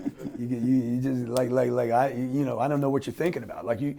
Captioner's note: laughing